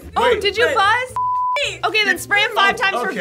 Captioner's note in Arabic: صافرة